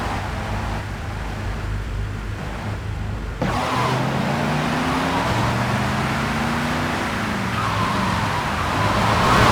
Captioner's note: car horn